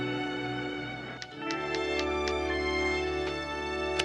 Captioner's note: typewriter clicking